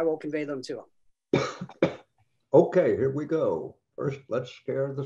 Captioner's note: coughs